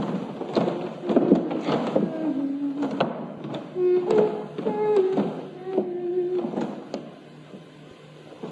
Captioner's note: humming a Dutch lullaby, “Ik ga slapen, ik ben moe”